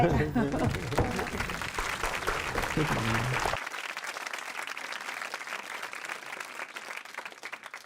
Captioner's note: applause